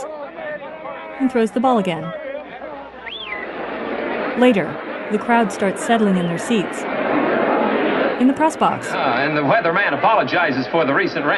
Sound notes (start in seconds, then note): 2.1 roar of the crowd